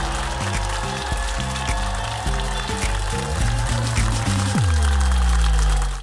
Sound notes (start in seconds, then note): 2.1 audience applauding; 4.2 upbeat music